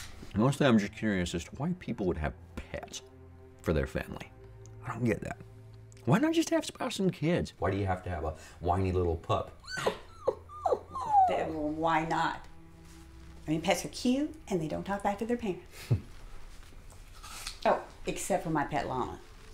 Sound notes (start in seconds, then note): 9.6 mimics dog whimpering